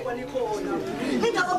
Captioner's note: people morn heavily